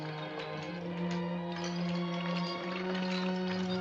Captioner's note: horses clopping